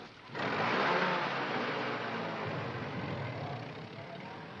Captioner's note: engine chugging